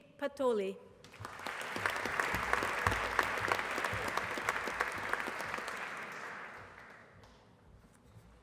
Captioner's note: applause